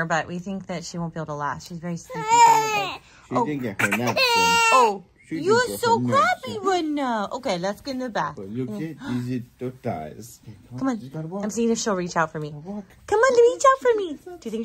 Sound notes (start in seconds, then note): 4.3 wails